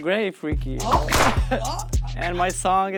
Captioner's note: whip lashing